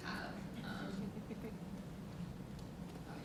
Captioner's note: audience Laughing